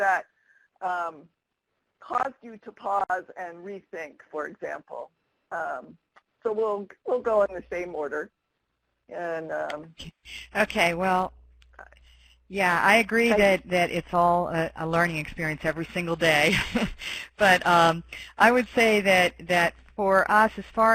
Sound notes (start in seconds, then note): 17.1 laughs